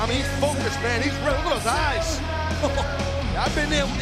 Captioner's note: laughs